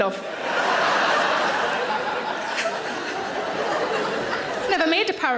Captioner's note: audience laughs